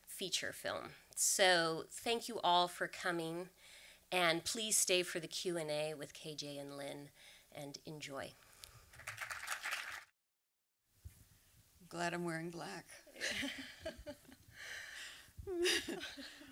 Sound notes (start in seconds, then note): 8.9 applause; 13.3 laughter